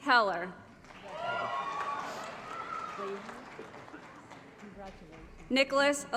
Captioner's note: applause & Cheering